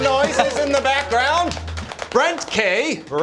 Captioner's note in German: applaus